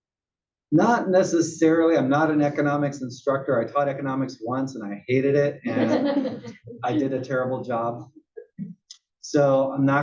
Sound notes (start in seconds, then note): 5.6 laugh